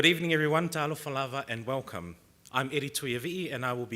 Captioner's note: speaking foreign language